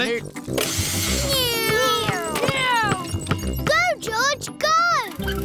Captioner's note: whirring